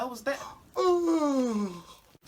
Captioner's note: yawns